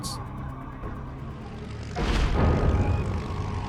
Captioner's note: engine roaring